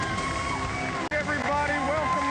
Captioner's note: applause